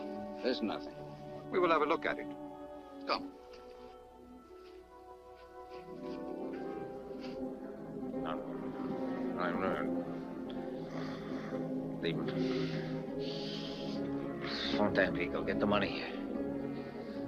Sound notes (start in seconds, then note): 7.6 Lin mumbles; 7.6 tense orchestral music